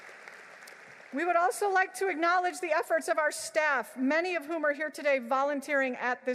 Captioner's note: applause